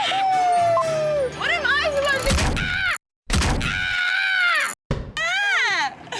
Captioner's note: cheering; painful yell